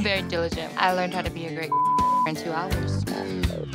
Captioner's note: beep